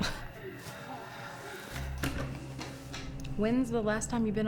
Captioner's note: Rachel scoffs